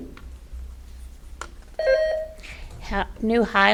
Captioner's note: button buzzing